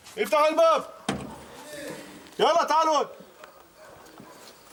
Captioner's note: Arabic spoken audio